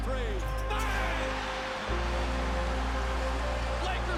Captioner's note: crowd cheering